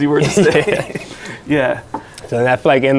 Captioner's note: laughing